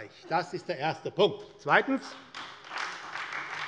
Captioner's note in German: Beifall bei der SPD